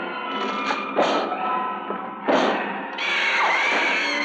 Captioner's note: pounding on door